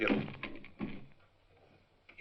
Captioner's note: smashing on door